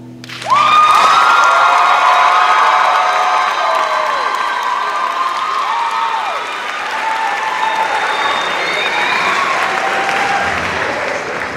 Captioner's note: cheers and applause